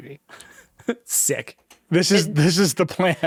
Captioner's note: chuckles